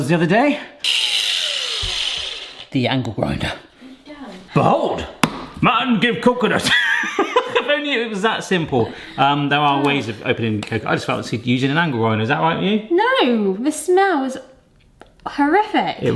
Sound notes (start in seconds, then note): 0.8 angle grinder grinding; 5.7 taps; 7.4 laughs